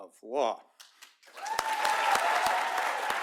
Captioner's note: applause